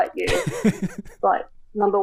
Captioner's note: laughing